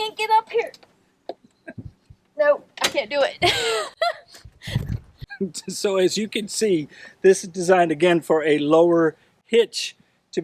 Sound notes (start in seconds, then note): 3.4 laughing